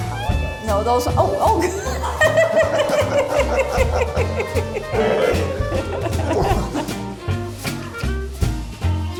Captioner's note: laughing